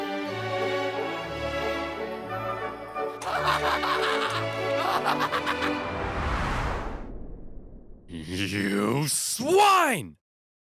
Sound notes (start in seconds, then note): 3.2 laughing